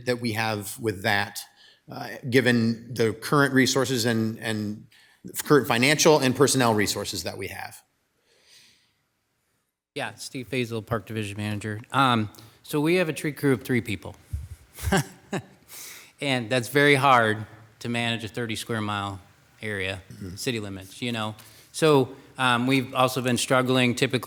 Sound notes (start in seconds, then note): 14.7 laughs